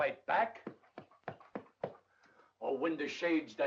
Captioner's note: patting